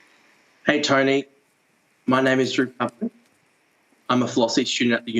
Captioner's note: breaking up